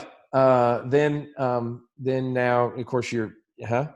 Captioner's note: murmurs